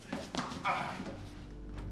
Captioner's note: grunts